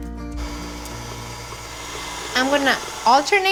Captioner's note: whirring